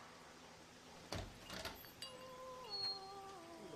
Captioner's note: door opens, bell dings